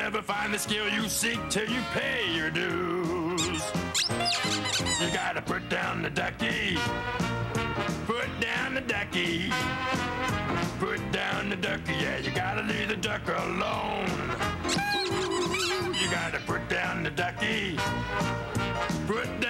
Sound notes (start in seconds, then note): 14.6 squeaking